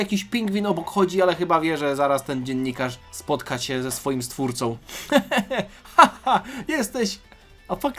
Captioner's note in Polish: śmiech